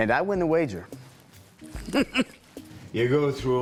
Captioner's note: chuckles